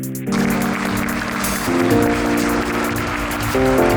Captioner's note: audience applauds